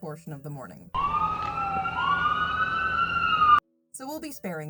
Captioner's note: loud siren sounds